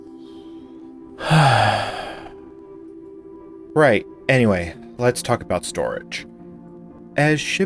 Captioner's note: long sigh